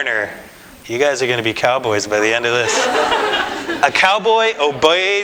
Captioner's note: audience: Laughter